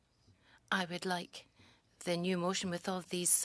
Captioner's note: speaking French